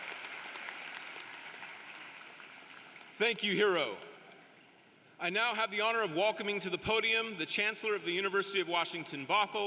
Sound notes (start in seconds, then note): 0.0 applause